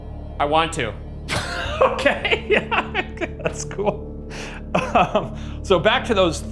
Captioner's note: laughs